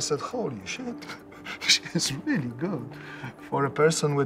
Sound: chuckles

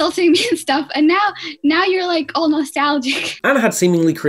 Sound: chuckling

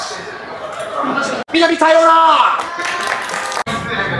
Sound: thief speaks in japanese

